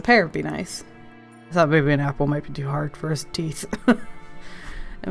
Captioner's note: quietly; laughs